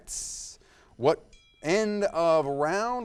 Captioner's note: timer dings